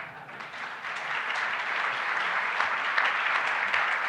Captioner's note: audience claps